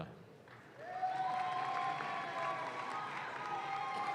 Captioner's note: audience claps